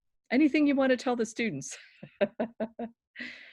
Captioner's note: laughing